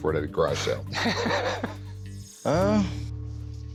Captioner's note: laughter